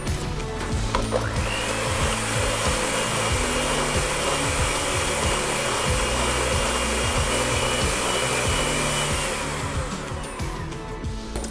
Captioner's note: blender motor whirling sound